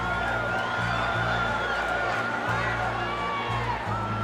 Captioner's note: fans whistle